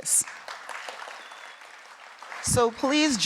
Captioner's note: audience clapping